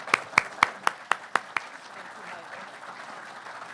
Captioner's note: audience clapping